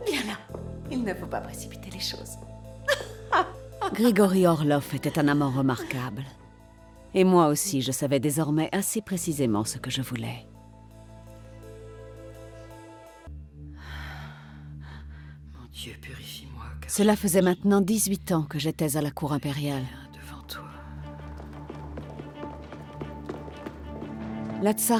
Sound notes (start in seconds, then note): 2.8 giggles; 20.5 faintly speaking; 22.6 dramatic music continues